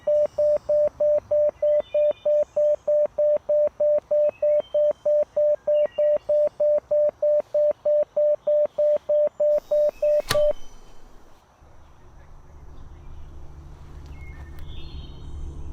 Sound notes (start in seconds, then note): 10.6 beeping Ceased; 12.5 ominous Sounds Building Up